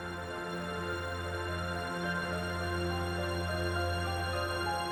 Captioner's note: none